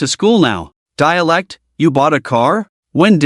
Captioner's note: dialect